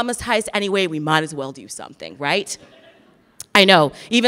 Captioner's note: laughs in audience